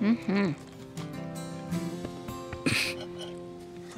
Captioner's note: patting